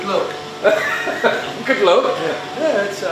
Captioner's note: laughs